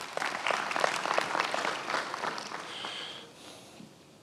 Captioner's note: many applauding